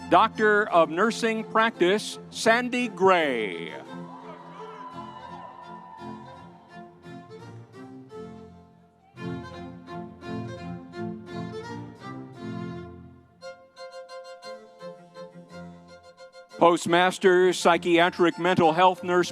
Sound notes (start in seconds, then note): 3.5 audience cheering; 6.9 lively music continues